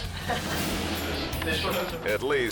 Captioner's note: transition whooshes